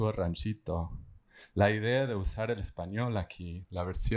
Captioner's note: speaking spanish